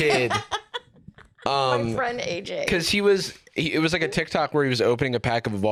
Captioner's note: laughing